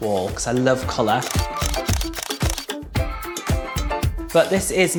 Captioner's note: camera shutters clicking